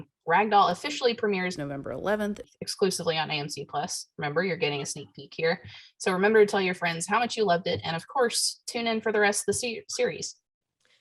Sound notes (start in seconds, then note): none